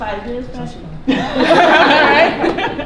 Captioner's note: laughter